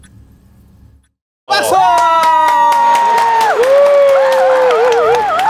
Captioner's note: applause